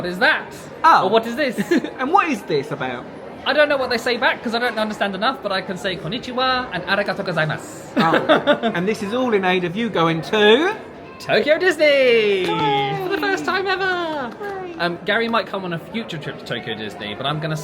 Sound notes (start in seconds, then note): 13.8 claps